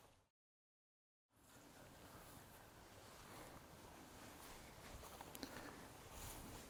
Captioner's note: footsteps and wind in the background